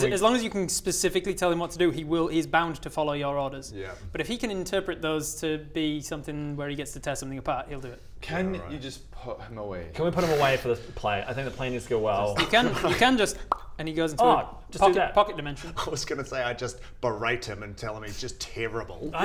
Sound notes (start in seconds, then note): 13.5 pop